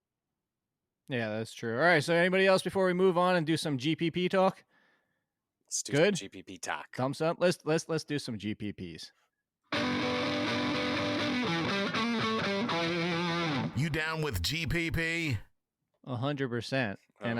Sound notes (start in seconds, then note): 9.7 heavy electric guitar riff; 14.0 voiceover